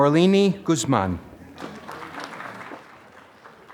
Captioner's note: applause